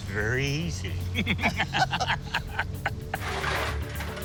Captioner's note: both laugh